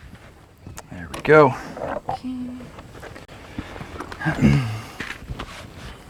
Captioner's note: shuffling of boots in dirt, tools rattling, no additional audio